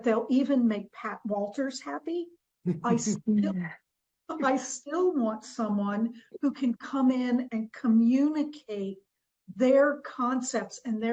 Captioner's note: laughs